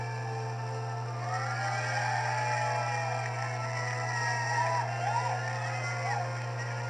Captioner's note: crowd Cheering